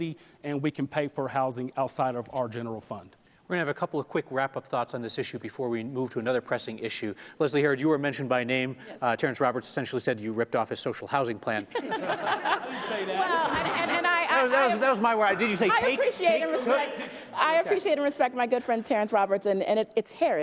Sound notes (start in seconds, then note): 11.8 everyone laughs